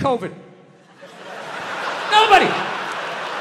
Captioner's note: crowd laughs